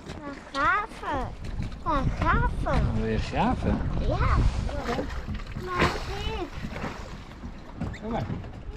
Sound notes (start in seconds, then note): 1.0 speaking foreign language